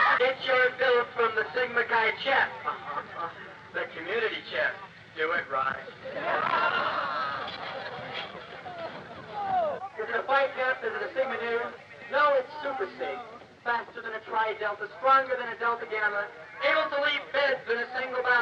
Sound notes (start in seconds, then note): 0.2 man speaking through a megaphone; 6.0 crowds cheering; 10.2 man speaking through megaphone